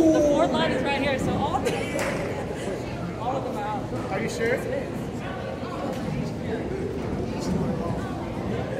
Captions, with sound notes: The fourth line is right here so all [Laughs] All of ‘em are out Are you sure? Yes it is